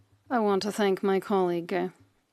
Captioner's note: speaking French